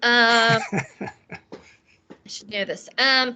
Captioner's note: laughing